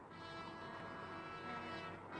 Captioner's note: none